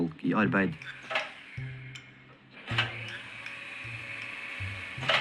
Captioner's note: machine clicks and whirrs